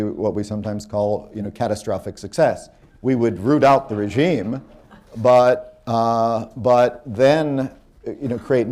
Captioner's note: laughter